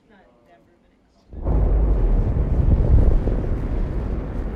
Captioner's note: engine roaring